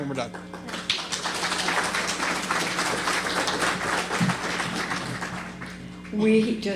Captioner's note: applause